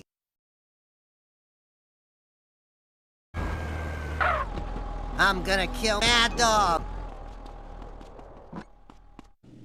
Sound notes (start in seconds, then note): 3.3 car Tires Screeching; 4.6 car Door Opens